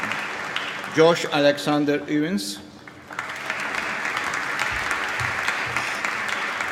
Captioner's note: applause